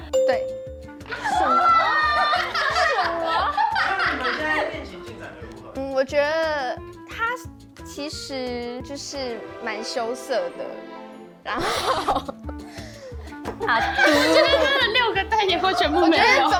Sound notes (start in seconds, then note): 13.6 everyone laughing uncontrollably